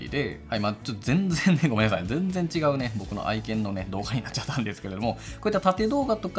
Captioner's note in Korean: 웃음